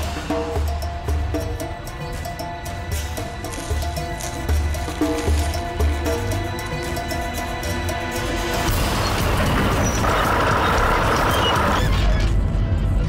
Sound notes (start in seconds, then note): 0.1 intense music; 9.0 tractor rumbles